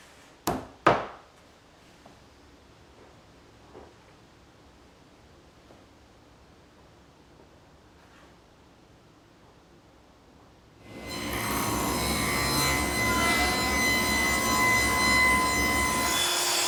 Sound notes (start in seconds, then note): 10.8 machinery whirs